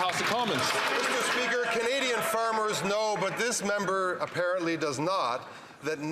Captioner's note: some Applause